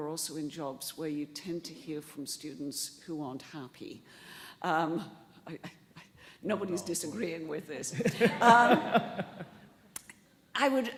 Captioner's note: laughter